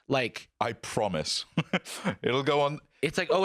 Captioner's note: laughs